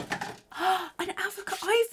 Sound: gasps

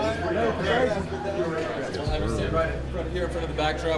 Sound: people chattering

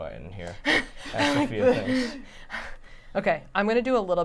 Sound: huffing

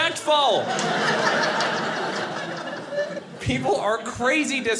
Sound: audience laughing

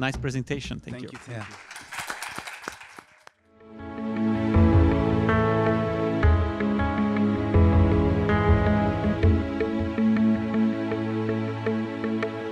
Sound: applause

